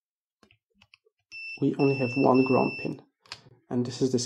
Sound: beeps

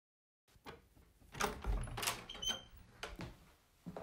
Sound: door opening

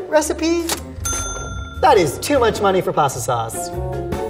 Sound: bell ringing

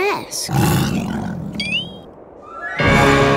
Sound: growling

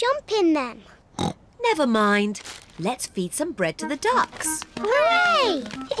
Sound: snorts

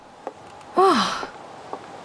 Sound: sigh

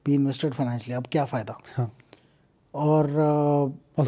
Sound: speaks in Hindi

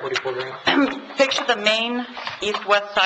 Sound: clears throat

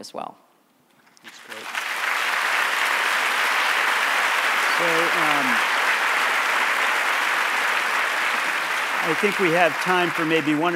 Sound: applause

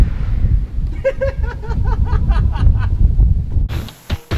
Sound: laughter

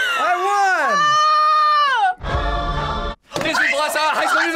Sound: screams

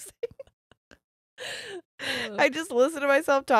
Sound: both laughing

